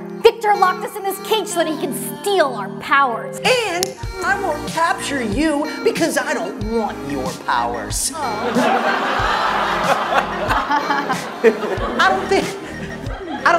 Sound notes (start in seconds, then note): 8.2 laughs; 8.2 audience laughs